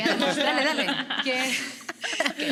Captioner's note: laugh